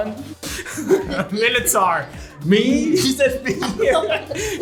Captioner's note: laughs